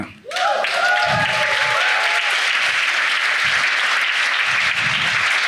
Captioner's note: audience cheering and clapping